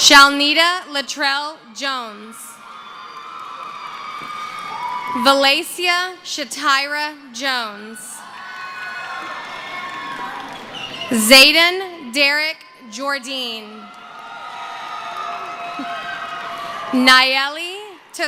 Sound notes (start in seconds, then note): 2.6 screaming; 9.7 cheering; 14.0 screaming and cheering